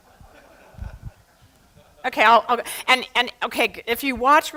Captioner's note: laughter